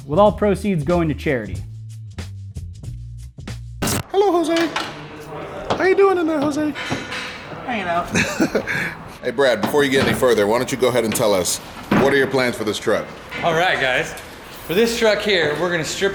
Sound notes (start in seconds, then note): 4.5 squeaky voice; 8.0 laughter